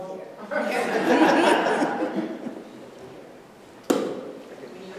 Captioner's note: laughter